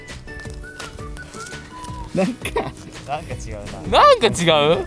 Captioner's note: laughs